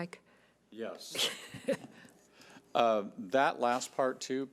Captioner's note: laughs